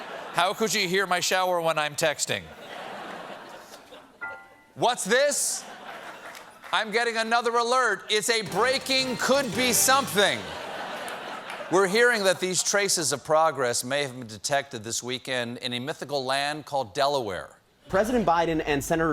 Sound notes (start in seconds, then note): 0.0 laughter; 8.4 piano riff; 13.6 laughter